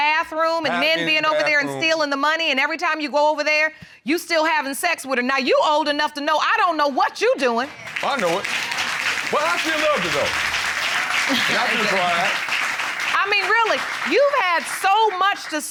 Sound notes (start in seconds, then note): 8.0 audience applauds; 11.3 butler chuckles